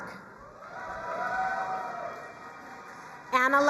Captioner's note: crowd cheering and applauding